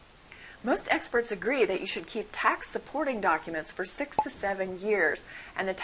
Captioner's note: pop